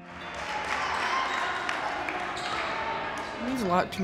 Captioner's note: players shouting and clapping